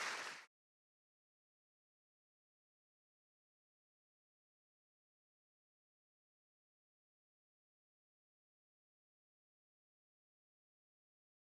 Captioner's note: silence